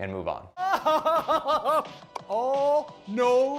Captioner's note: laughing